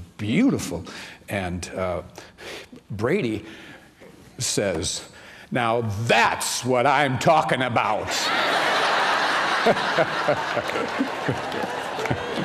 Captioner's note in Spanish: risas